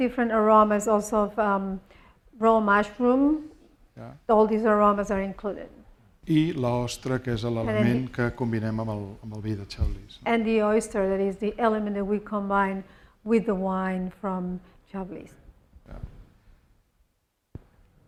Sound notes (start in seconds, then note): 6.8 speaking spanish